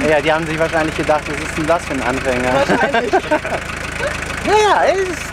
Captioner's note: laughter